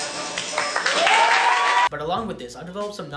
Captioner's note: wild applause